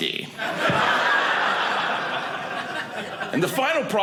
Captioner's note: audience laughing